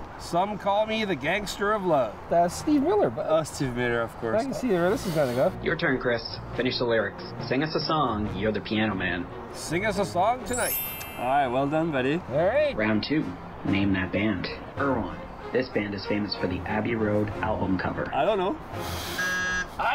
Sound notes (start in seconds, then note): 5.6 on phone; 10.5 bell ringing; 12.9 on phone; 19.1 buzzer